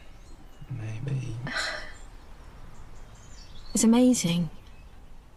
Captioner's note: sighs